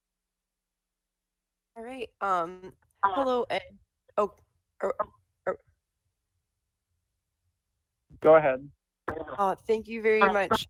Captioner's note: ~interference~